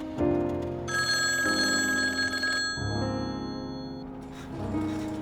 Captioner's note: rings